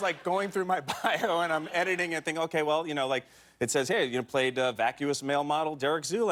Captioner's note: laughter